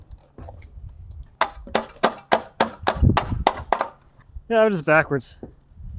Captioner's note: hammer banging